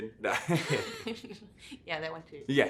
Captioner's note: laughing